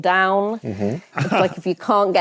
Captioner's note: chuckles